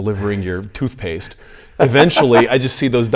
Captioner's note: laughs